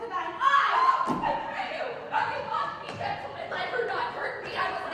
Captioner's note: screams